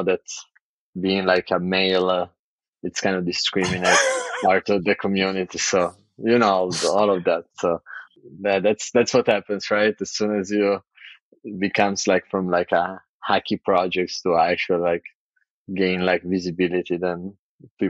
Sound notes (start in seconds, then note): 6.3 <Laugh>